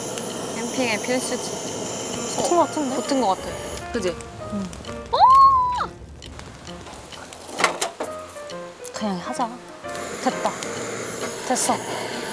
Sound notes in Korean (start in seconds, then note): 7.5 와르르